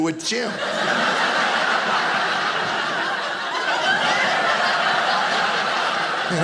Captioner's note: audience laughing